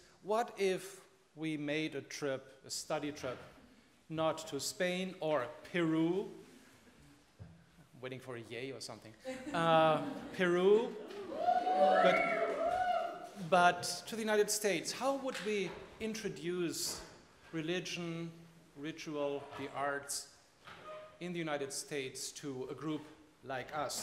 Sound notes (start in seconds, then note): 11.0 students whooping